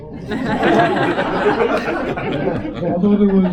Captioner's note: laughter